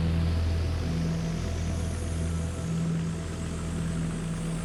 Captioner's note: none